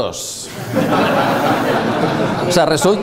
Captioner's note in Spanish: risas